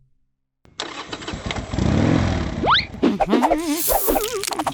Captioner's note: engine revs; humming